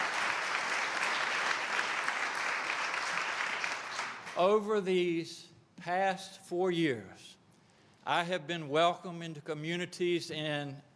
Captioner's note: applause